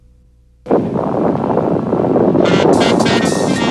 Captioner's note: bomb exploding